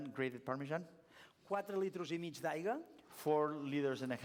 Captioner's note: non-english speech